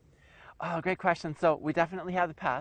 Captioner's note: voiceover